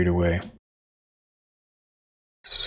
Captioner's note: silence